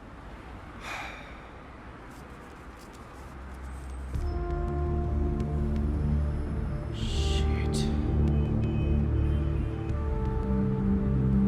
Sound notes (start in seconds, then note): 0.8 Ron sighs; 7.8 ominous music